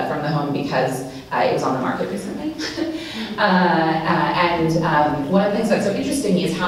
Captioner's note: laughs